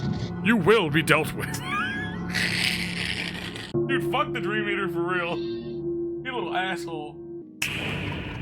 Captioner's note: laughs